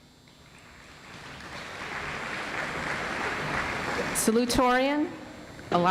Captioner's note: audience applauds